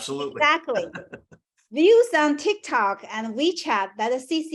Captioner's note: laugh